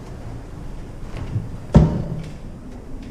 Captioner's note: knock